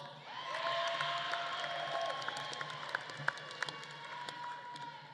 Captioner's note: audience claps and cheers